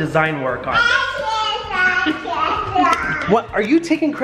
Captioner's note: child babbling